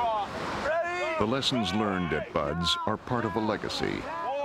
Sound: voiceover

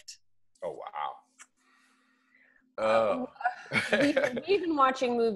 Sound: laughs

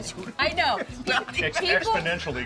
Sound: laughing

